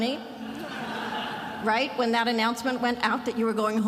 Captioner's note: attendees laughing